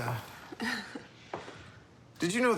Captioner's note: Molly laughs